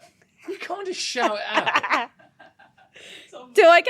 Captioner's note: laughing